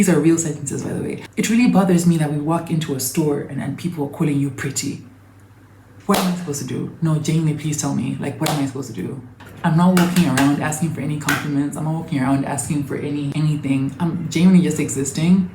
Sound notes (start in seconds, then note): 6.1 sharp clap, perplexed; 9.9 sharp passionate claps in between